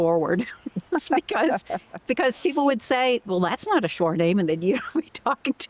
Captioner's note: laughter